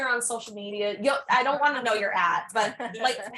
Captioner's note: people laugh